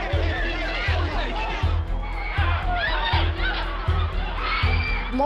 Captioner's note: shouting; shouting and screaming